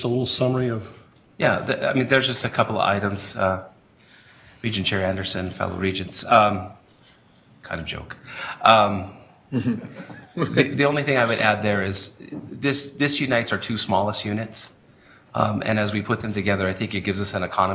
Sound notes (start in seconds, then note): 9.5 chuckling